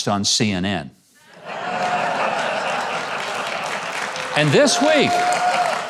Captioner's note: audience laughs